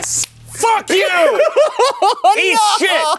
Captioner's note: laughing